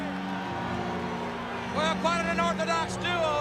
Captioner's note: crowd cheering